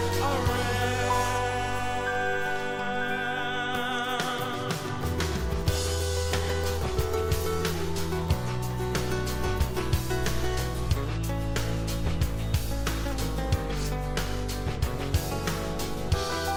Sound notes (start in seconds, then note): 5.6 audience cheering; 11.1 upbeat music